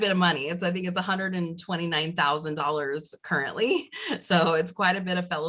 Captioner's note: laugh